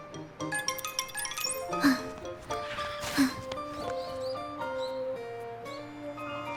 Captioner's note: huff